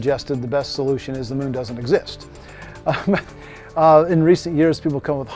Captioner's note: laughs